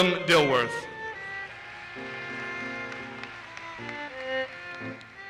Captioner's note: audience applauses